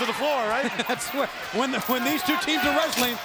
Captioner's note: laughs